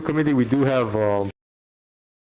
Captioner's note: voice cuts out